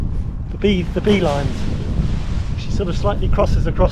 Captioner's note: paraglider crinkles